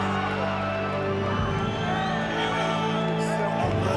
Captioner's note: solemn funereal music continues; crowd clamors